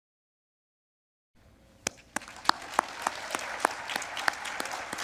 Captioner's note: applause